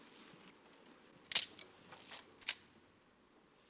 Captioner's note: camera clicks